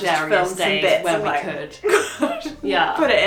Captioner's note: laughs